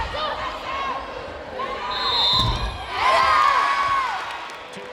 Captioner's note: whistle blows; players yelling